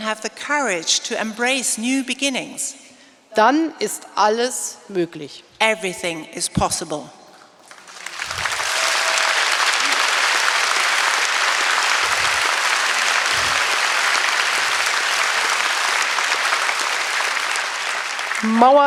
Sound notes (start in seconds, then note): 3.5 speaking in German; 7.6 applause; 18.6 speaking in German